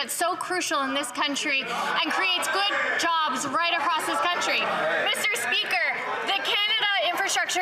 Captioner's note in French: voix de l'interprète